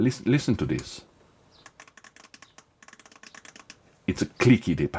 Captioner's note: clicking sounds